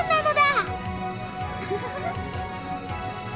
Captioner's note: giggle